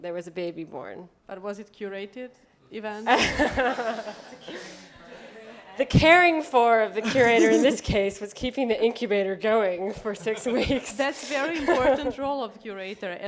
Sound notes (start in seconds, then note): 3.0 laughter